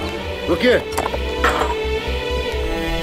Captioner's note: Door opening